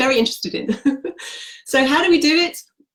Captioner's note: laughs